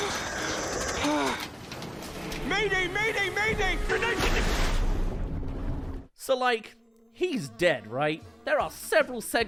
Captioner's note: splash